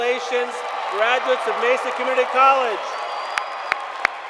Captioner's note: cheers and Applause